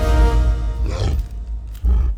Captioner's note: growls